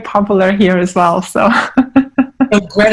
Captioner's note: laughing